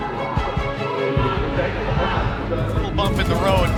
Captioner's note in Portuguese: grito de guerra